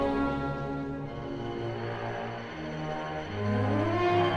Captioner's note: wind Howling